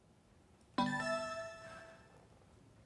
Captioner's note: electronic startup sound